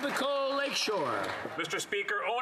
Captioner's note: some Applause